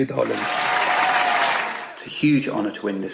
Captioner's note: applause